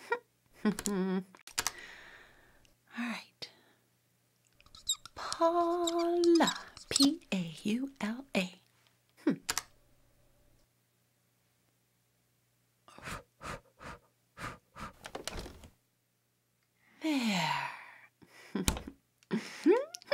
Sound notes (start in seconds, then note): 14.4 puff. puff